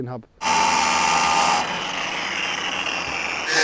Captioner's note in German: Maschinenlärm